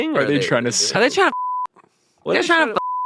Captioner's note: beep